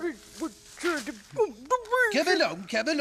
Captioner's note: muttering